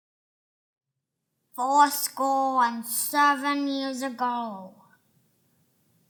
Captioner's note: using a deep voice